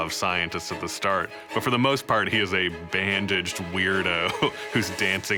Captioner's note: snickers